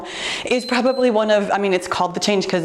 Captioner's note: timer beeps